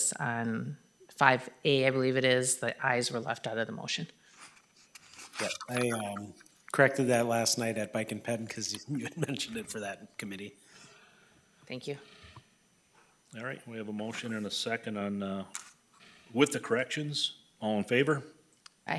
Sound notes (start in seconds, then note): 8.8 laughing